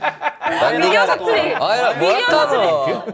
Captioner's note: disgusted